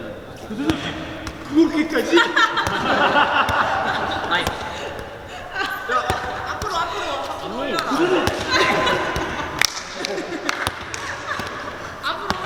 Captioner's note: cheering and laughing